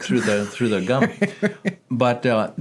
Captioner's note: laughing